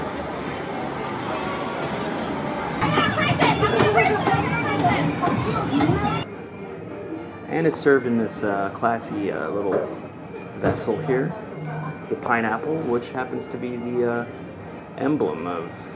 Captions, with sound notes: And it's served in this classy little vessel here [Glass dings] the pineapple, which happens to be the emblem of